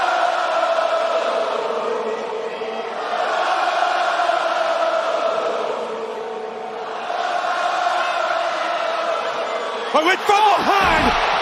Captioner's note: crowd chanting